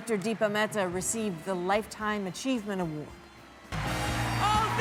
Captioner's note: applause